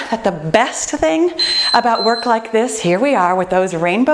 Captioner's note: beeping